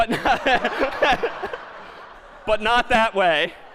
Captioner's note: laughter